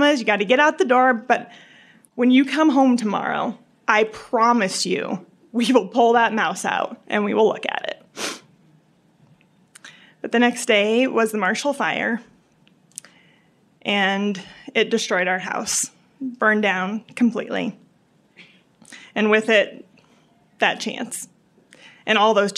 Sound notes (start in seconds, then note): 8.1 sniffles